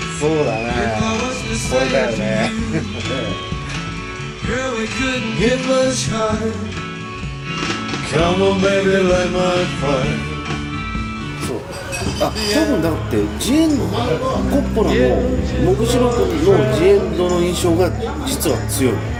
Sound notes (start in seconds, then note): 5.5 humming